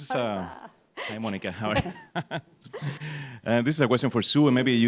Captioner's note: laughs